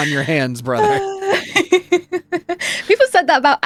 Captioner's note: laughing